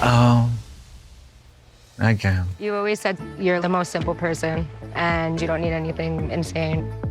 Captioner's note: none